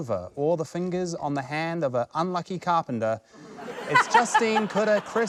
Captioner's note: laughter